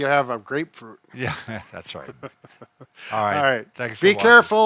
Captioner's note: chuckles